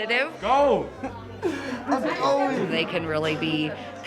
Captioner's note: laughs